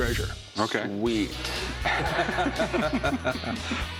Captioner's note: laughter